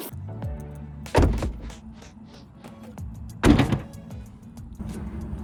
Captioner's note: doors click closed